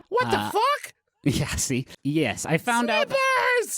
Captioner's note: laughing, uncomfortable